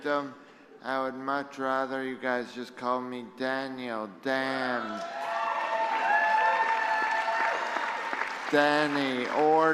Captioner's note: applause